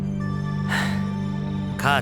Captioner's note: sigh